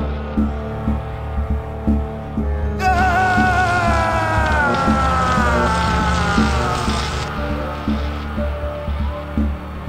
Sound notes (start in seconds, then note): 2.8 Leonard groaning; 2.8 electric zapping